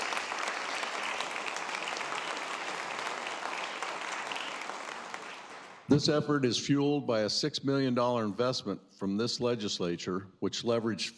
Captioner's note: applause